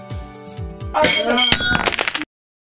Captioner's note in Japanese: ガラスの割れる音